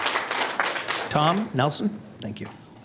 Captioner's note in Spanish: aplausos